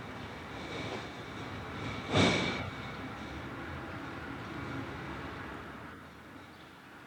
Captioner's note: vehicle rumbles down street